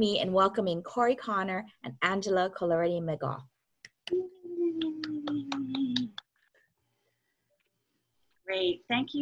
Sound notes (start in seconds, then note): 4.8 clap